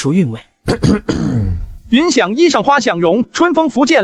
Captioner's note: coughs